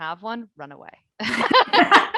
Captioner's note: both laughing